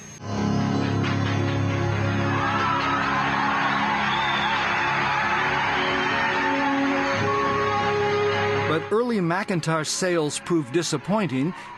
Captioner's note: cheering and applause